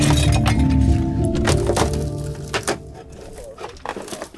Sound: metal clanking

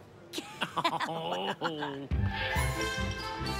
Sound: laughs

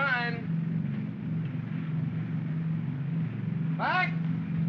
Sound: aircraft rumbles

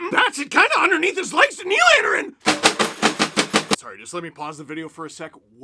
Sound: bangs on table

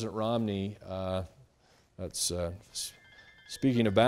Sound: phone ringing

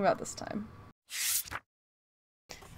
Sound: transition Sound

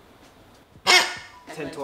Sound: squeaks

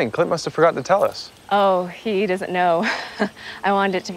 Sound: laughs

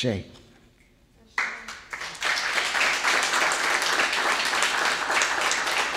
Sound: audience applauding

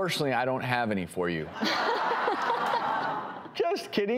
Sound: audience laughing

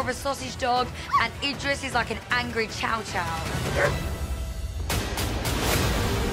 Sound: barks; dramatic music

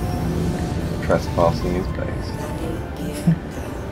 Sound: chuckles

